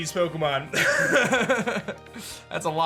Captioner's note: chuckles